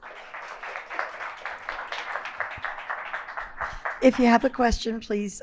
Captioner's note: audience applauds